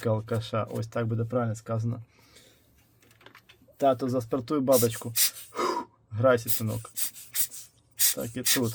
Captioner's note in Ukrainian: дмухає